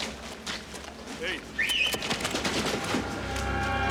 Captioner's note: whistles